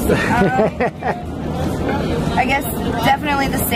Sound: interviewer laughing

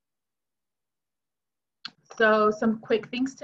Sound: silence

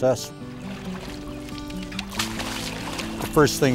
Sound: sound of water splashing

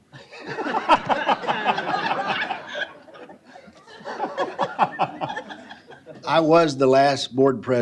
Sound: laughter

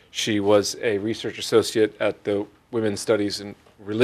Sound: none

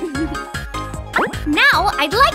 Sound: boop

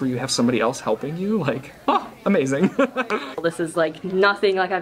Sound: laughs

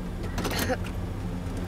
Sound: Ella clears throat

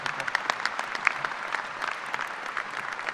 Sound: applause

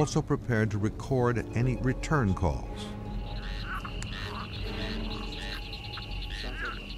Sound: animals warbling

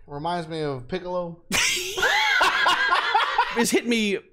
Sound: laughter

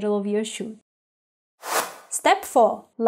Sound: warped whooshing

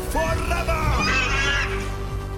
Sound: screeching

